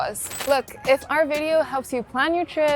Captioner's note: static scratching